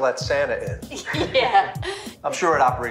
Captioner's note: laughing